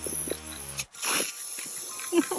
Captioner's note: spraying; giggles